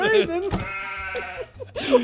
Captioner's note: sheep noise; laighing; laughing